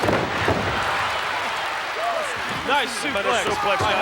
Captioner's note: body thuds